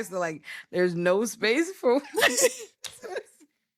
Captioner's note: laughing